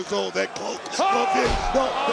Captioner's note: audience gasping